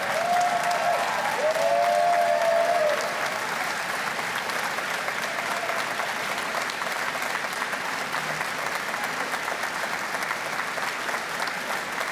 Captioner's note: cheers and Applause